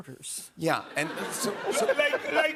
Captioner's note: laughter